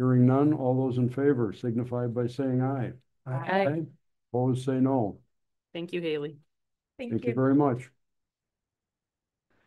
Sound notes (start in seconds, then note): 5.3 silence